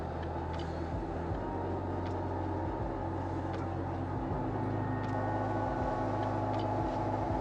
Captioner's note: lift whirring